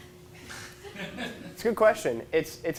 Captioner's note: audience laughs